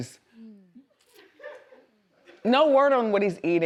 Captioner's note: woman laughs